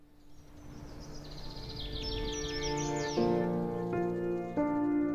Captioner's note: birds chirping